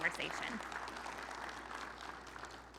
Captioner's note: audience applauding